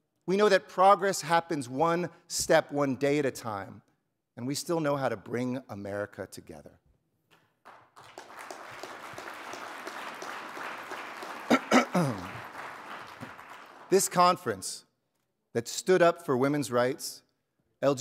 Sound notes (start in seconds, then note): 7.6 audience applauding; 11.5 clears throat